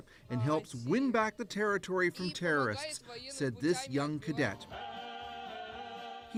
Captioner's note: speaking russian